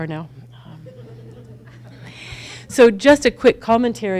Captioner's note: audience laughs